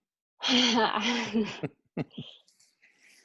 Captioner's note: laughter